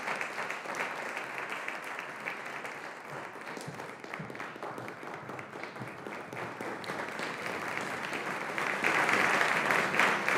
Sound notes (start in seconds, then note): 6.6 audience applauding